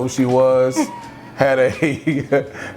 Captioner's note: laughs cheerfully; chuckles softly